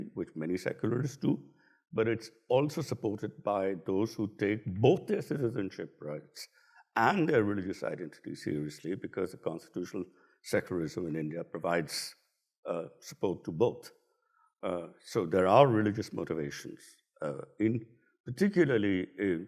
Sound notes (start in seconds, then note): none